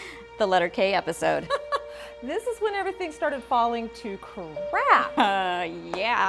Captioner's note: laughs